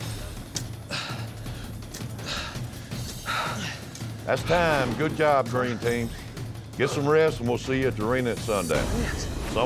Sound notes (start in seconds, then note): 2.1 grunting